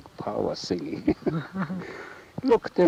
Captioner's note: laughs